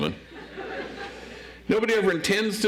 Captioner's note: audience laughs